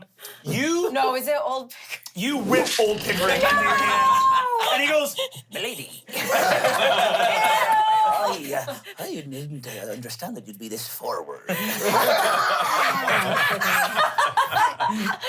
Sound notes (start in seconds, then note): 6.2 everyone laughs; 11.6 everyone laughs